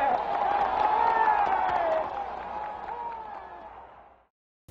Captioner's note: crowd cheering